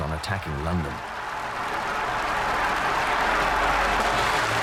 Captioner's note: crowd cheering